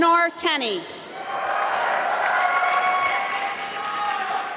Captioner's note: applause